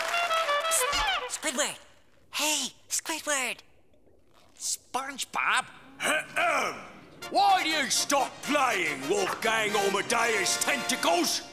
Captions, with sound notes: Pss! Squidward. Hey, Squidward. SpongeBob. [clearing throat] Why you stop playing, Wolfgang Amadeus Tentacles?